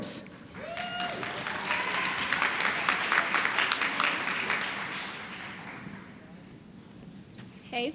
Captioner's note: applause